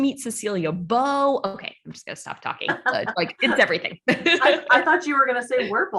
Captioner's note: laughs